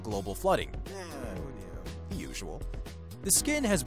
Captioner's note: groans